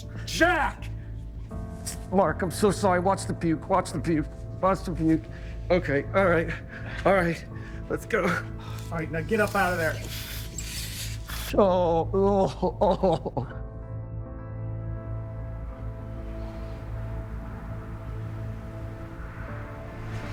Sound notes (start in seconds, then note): 13.7 gentle music; 13.7 traffic buzzing